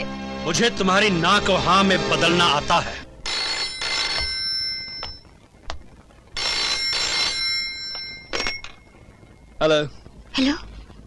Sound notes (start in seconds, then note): 3.2 phone Ringing